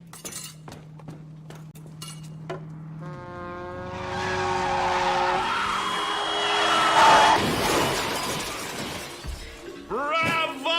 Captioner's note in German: Autounfall